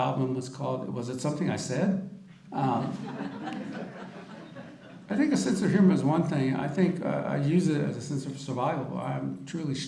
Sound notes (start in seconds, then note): 2.7 audience laughter